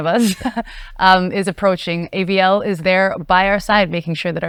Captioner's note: laughs